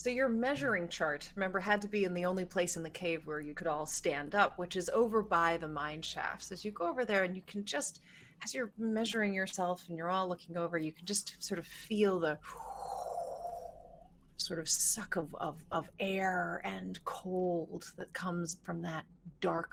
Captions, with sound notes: - So your measuring chart, remember, had to be in the only place in the cave where you could all stand up, which is over by the mineshafts. As you go over there and you can just, as you're measuring yourself and you're all looking over, you can just sort of feel the (imitates wind) sort of suck of air and cold that comes from that dark coal